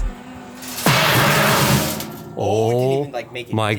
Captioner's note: box clangs on the ground